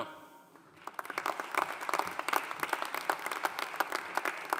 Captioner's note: audience applauding